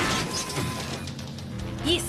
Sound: crash

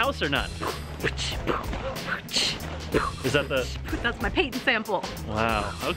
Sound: beat boxing

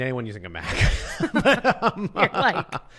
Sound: laughter

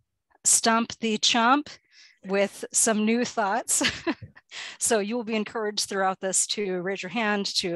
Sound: chuckle

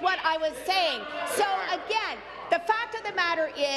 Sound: none

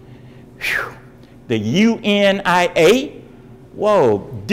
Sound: exhales

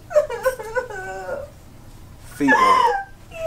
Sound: woman weeping

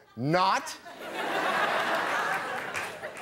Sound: all laughing

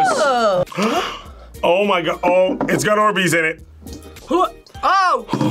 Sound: gasps

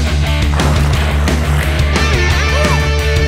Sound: growling

